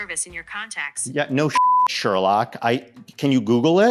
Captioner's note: beep